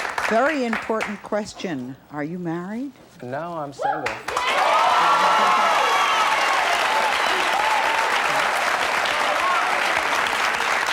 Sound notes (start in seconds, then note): 4.1 cheering